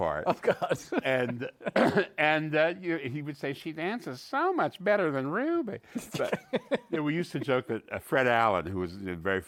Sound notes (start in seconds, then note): 3.7 nasal voice